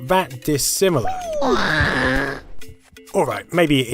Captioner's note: HORRIFIC SOUND of DYING HAROLD